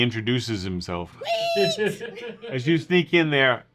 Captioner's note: squealing